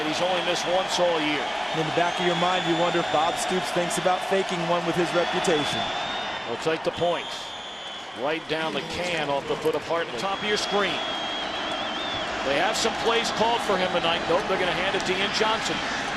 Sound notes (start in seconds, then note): 10.9 crowd cheering